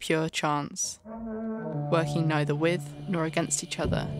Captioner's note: low creaky tone